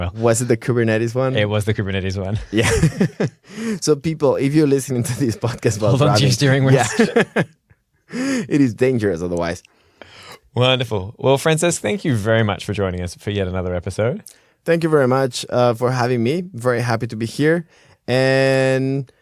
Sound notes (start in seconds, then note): 2.4 laughter; 8.5 laughing